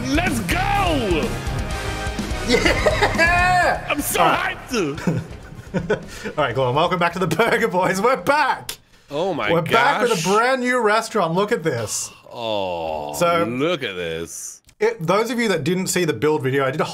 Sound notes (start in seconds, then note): 4.9 laughing